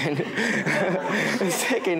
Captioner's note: audience laughing